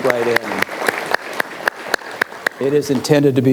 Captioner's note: audience applauds